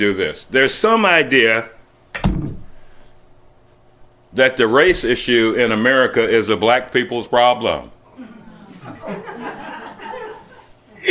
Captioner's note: slight laughter